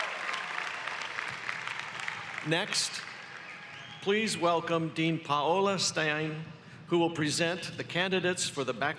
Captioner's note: applause